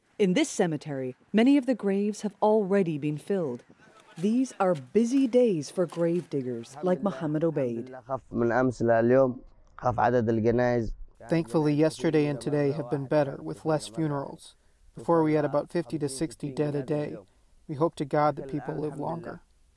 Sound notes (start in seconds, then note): 9.7 through translator